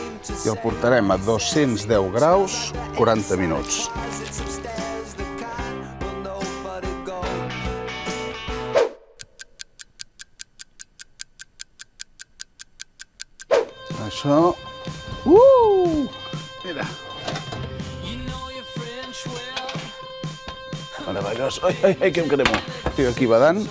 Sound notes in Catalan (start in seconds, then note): 9.2 tic-tac